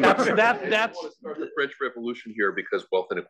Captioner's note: laugh